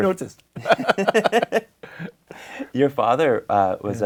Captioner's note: both laugh